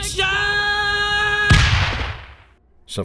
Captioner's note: underground boom / snap